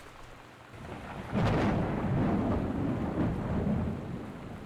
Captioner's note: thunder